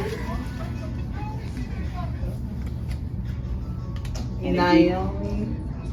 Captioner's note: papers rustling; TV talking and playing indistinctly